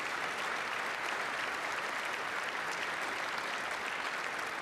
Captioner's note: applause